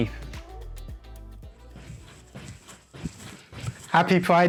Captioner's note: thudding on trampoline